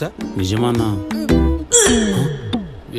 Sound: pukes

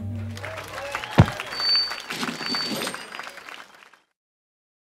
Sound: crowd cheering

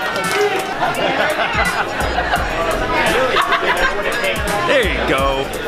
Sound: laughing

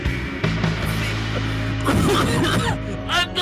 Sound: coof coof

